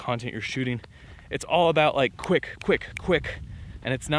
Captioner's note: snapping